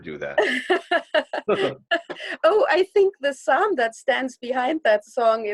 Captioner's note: chuckles